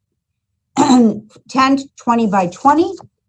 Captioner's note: clears throat